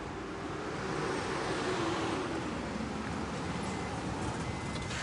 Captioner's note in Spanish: Sonido del carro